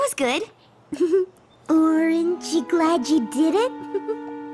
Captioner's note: giggle